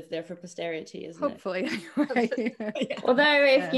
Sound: all laugh

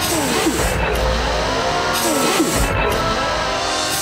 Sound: whirring; banging

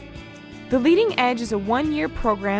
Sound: female voice-over

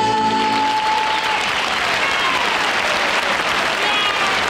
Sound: audience applause

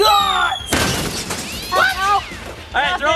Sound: pumpkin booming

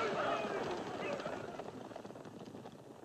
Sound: whooping fades; gunfire fades

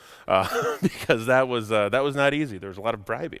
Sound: laughs

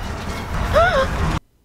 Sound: even bigger gasp

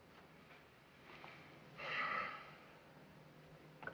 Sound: sighs

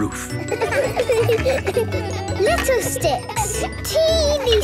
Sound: laughter

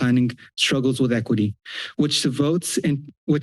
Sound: inhales

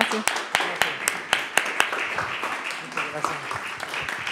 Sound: audience applauds

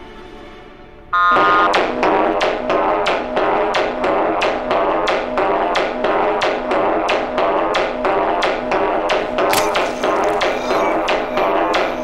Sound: throbbing alarm

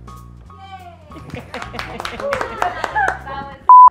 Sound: jaunty music; laughing and clapping

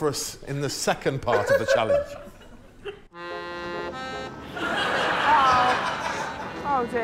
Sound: laughter

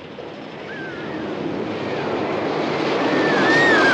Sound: shrieking

